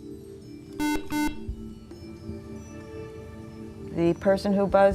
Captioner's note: beeping